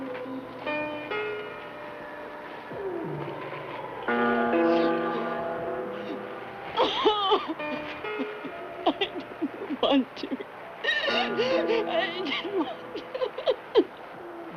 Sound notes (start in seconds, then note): 2.8 Kathy sobs; 11.3 sobs